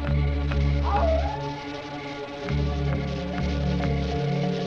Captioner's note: animal howls